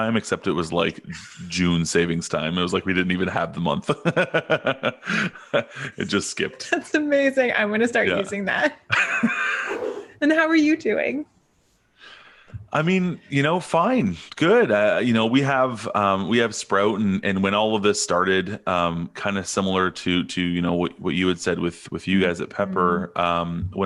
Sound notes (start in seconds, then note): 5.4 laughing; 6.6 chuckles; 8.9 both laughing; 9.6 air whooshing